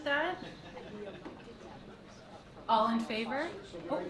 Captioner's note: board murmuring